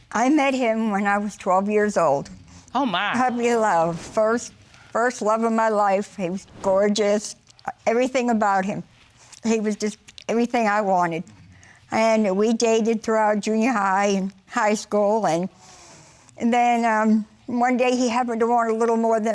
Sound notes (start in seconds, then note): none